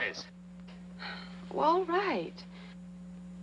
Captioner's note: Paula sighs